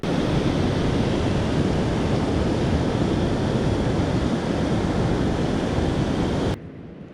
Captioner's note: waterfall noise